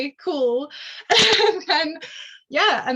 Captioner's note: chuckles